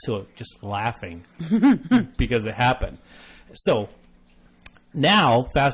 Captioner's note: laughs